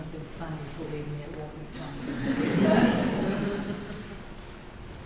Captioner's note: laughter